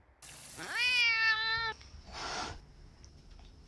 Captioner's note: cat hissing